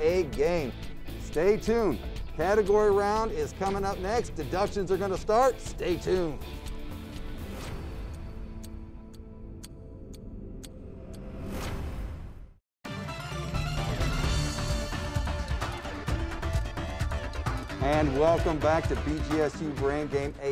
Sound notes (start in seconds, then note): 7.6 clock ticking; 12.8 dramatic music